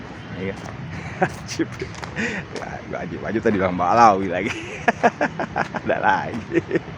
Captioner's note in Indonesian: tertawa